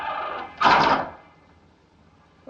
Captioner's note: door chain catches